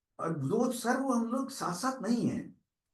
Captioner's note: non-english speech